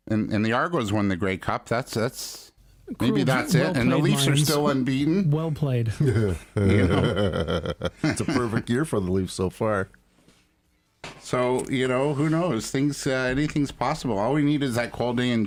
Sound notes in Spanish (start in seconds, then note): 6.0 Continúan las risas; 6.0 Risas